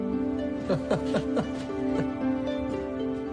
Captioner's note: laughs